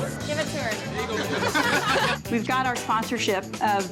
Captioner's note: all laughing